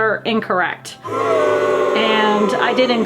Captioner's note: crowd booing